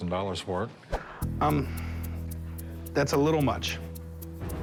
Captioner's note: sighs